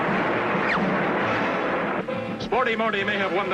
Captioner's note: air whoosh; car zooming